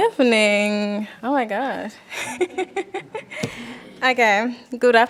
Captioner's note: laughs